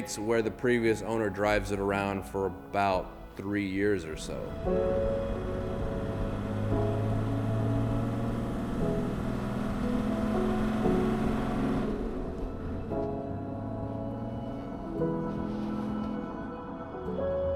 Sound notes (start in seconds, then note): 5.2 calm music; 5.2 engine roaring